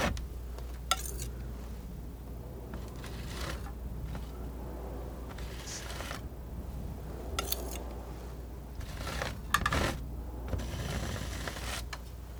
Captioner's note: scratching